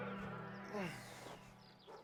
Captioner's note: tense music; birds chirping; sighs